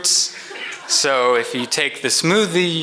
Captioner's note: audience laughs